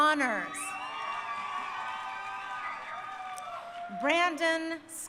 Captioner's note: crowd cheering